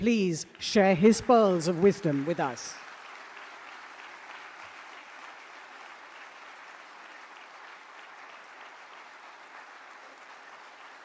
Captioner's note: applause